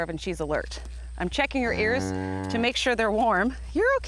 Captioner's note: agitated "Mrrrrr!"